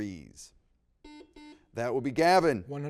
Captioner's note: buzzer beeps